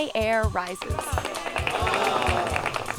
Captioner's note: applause